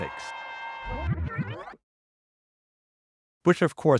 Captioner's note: horn blaring; audio warbling